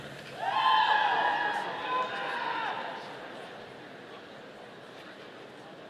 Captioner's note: audience cheering